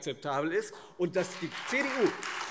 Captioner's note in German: Beifall Freie Demokraten, AfD und vereinzelt SPD